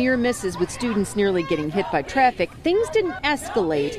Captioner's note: chanting